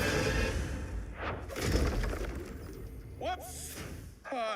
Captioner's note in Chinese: 坠落声